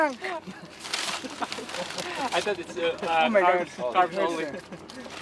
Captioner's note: crew chattering